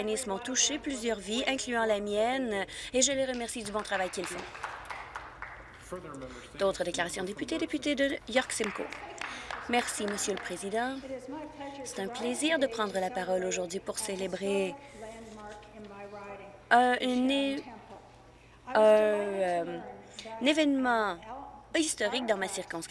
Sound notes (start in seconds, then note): 5.9 some Applause